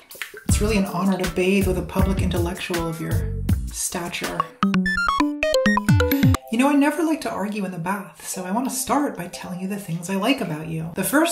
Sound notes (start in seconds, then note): 4.6 beeps and boops